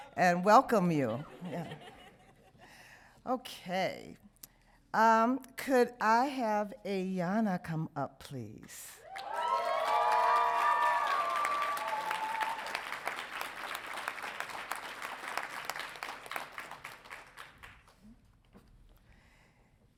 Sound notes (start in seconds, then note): 1.2 audience laughs; 9.0 audience cheering